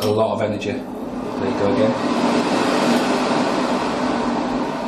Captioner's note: hand dryer roaring